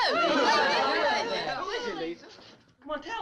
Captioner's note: crowd clamoring